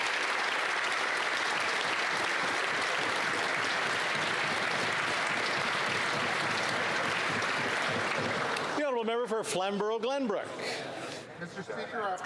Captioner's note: applause